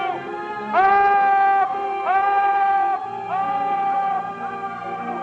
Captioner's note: echoing